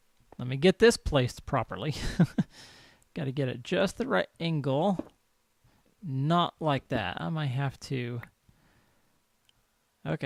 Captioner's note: laughs